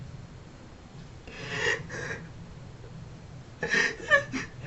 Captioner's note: crying